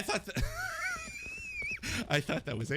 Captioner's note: laughs